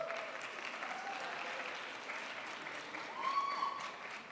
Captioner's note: crowd applauds